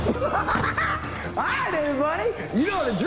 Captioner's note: laughing